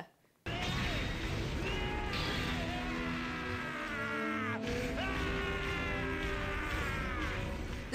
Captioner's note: Starscream star-screaming